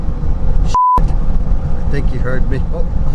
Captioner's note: electronic beep